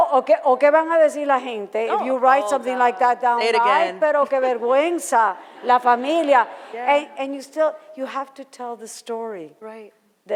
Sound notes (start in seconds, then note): 4.9 foreign language